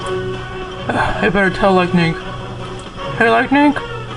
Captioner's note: sighs